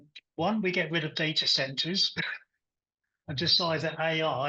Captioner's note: chuckles